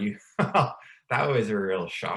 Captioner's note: laughs